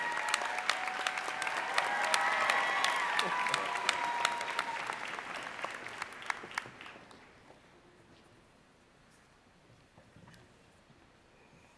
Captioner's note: applause